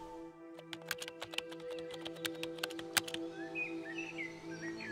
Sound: typing

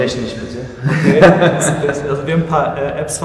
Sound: laughing

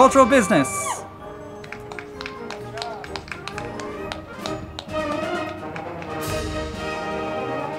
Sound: band music; crowd clapping and cheering

